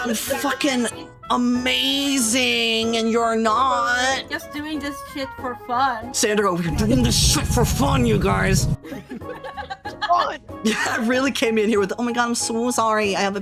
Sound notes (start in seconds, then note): 8.8 all Laughing; 8.8 laughing